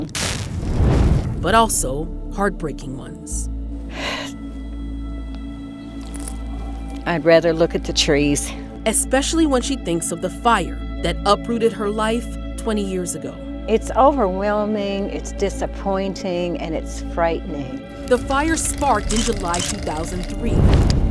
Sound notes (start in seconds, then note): 0.0 fire crackling and roaring; 3.9 sighs sadly